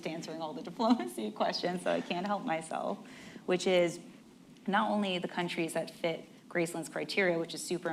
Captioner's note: laughs